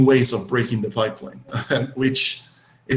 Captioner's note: laughs loudly